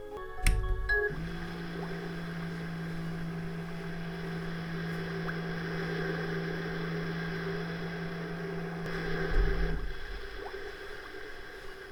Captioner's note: sea sounds